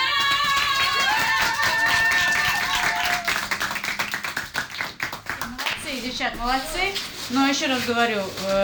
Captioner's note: applause